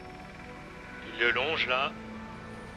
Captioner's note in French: radio